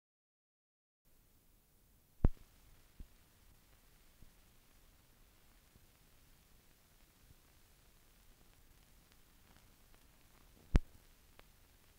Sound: silence

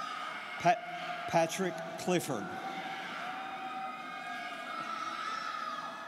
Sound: students cheering

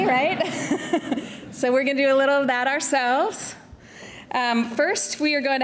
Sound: audience laughter; chuckles

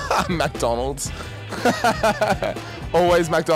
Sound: man laughing

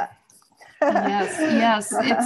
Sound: laughs

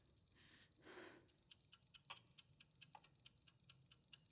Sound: timer ticking

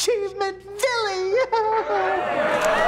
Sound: laughing; cheering

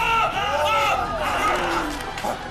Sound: crack crack

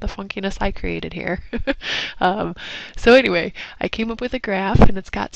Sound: laugh

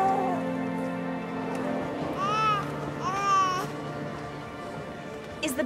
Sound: crowd murmuring

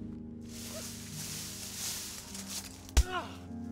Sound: leaves rustling; grunting

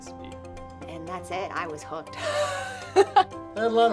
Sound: laughs

